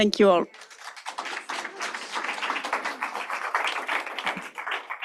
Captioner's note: applause